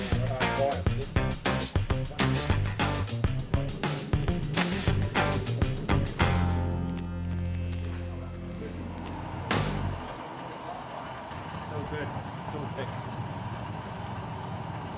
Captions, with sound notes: (upbeat pop music continues) (machine roaring) - It's all good, it's all fixed.